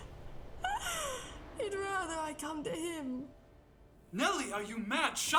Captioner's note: laughs